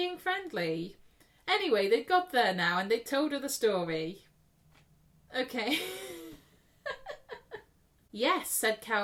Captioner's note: laughs